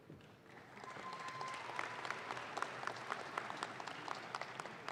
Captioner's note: audience claps